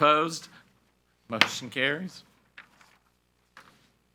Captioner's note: gavel bangs